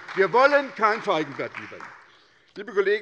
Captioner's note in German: Beifall bei der SPD